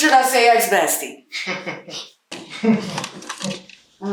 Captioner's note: Crank and Ace laughing